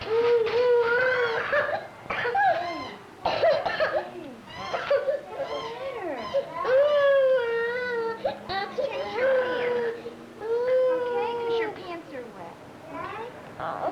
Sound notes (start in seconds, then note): 0.0 crying and coughing; 7.5 crying